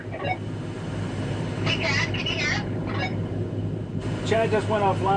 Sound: over the walkie-talkie

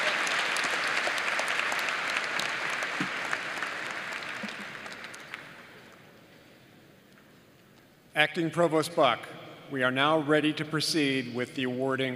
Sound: applause

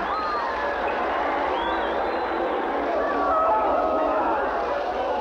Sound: cheering Crowd Noises

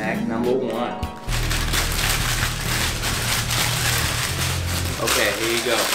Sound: plastic scrunching

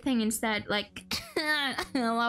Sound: coughing

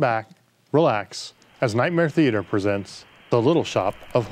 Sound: static hissing

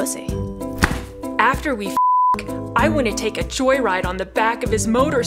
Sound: beep

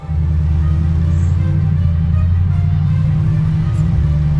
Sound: car engine humming

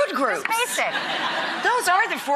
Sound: audience laughs

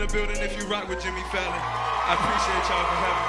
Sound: cheering and applause

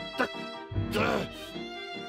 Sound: growls

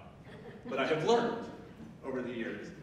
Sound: audience member laughing

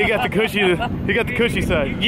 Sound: man laughs

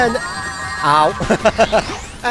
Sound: laughter

